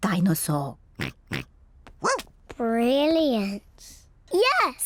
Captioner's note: snorts; barks